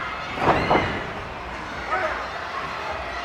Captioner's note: body thuds